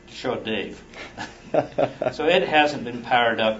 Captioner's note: laughter